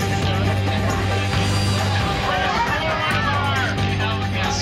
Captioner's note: background chatter